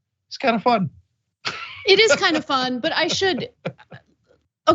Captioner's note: laugh